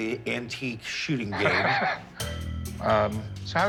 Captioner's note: laughs